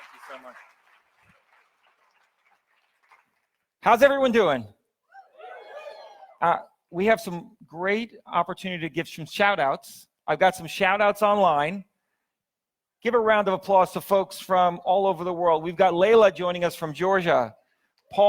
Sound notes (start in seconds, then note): 5.2 audience cheers